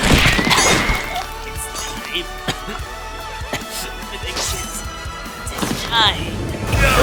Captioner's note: gasping for air